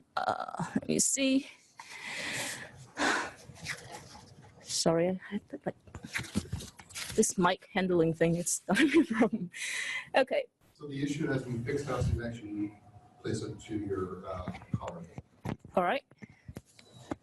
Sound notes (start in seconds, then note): 3.2 sighs; 8.8 chuckles; 14.1 audio warps